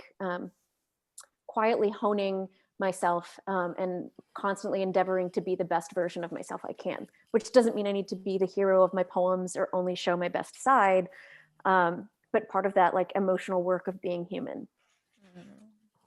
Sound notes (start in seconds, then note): none